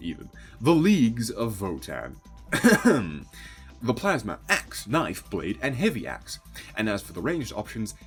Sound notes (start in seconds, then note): 2.5 clears throat